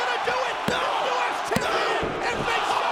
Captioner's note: crowd clamoring; hands thudding